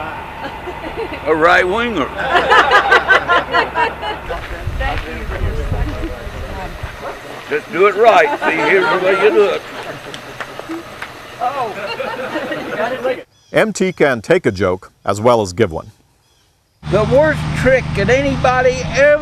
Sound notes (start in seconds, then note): 5.1 laughter